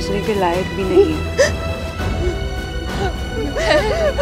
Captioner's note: Meher crying